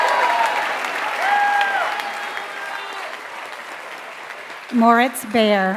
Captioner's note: applause